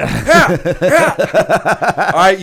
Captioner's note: laughter